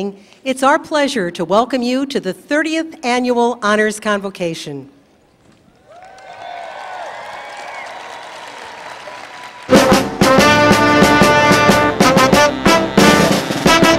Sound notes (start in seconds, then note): 5.7 cheers, Applause